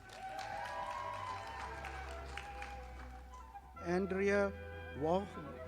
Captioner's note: audience applauding